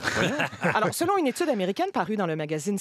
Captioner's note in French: rires